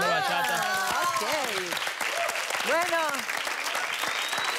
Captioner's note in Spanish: Aplausos